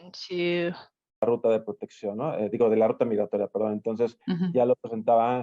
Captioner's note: speaking in Spanish